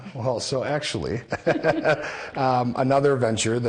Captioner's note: laughing